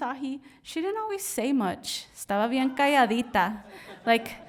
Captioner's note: speaks in Spanish